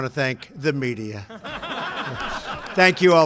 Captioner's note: laughter